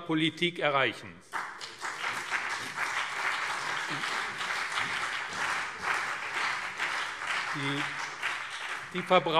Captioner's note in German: Beifall BÜNDNIS 90/DIE GRÜNEN und CDU